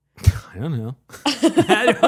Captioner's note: laughing